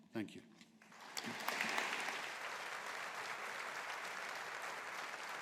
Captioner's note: audience applauding